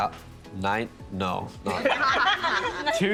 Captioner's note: all laughing